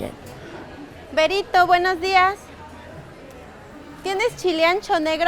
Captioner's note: speaking foreign language